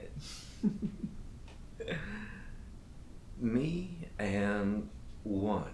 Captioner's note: Captain Brookes giggles